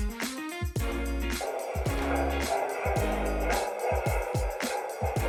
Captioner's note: door whirring